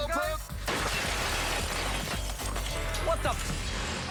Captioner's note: glass shatters